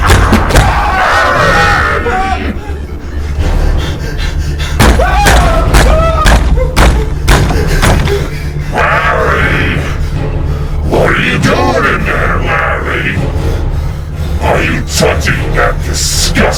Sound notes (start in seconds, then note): 4.9 Larry panting and screaming